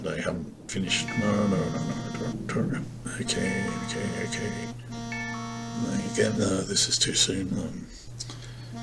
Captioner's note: phone beeps